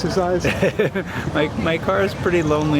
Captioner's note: laughs